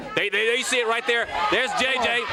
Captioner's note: crowd chatter